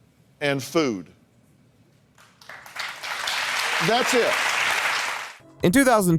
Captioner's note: applause